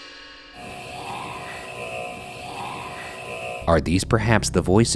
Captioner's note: tense music; voice whispering